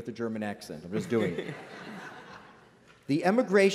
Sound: laughter

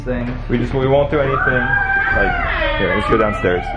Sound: loud greetings

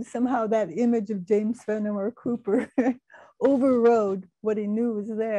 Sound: laughing

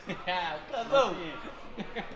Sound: laughing

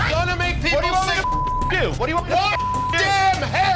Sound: beep

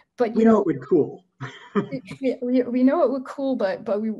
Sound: laughs

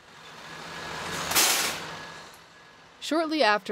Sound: engine humming; air brake hisses

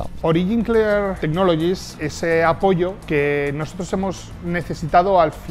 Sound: man speaks Spanish language

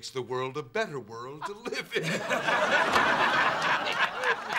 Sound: all laughing

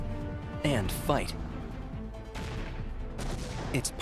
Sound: explosions

